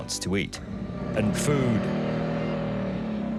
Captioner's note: goanna bellowing